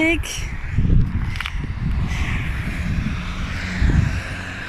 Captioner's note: traffic